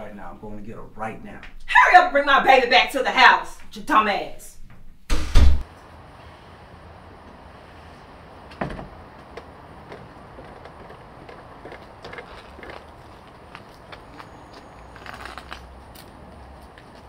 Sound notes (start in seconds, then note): 5.0 door shutting; 8.5 stairs bouncing underfoot; 8.5 door shutting